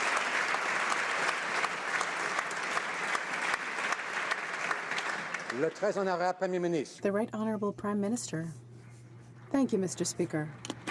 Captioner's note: applause